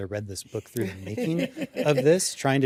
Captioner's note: laughter